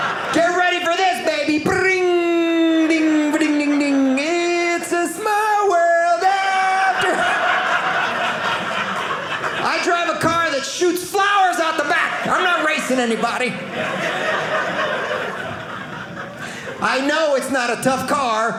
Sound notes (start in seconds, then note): 6.6 audience laughing; 13.4 audience laughing